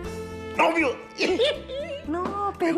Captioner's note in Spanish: Ríe